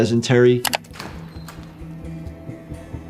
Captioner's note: mouse clicking; door creaking; low tense music